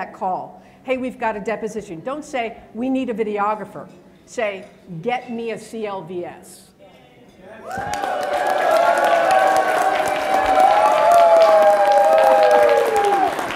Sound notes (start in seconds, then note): 7.6 applause